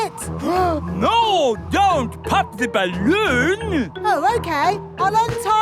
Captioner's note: gasps